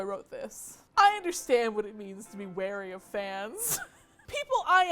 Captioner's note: laughs